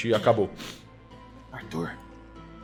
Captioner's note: whispering